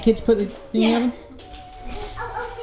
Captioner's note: murmurs